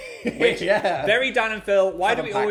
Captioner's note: laughs